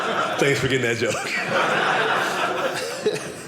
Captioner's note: audience laughing